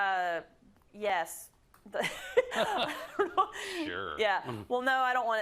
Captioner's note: laugh